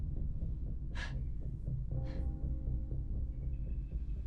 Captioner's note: Sarah gasps for air